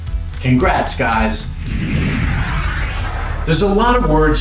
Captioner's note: screen whooshing